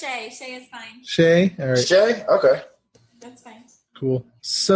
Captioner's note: laugh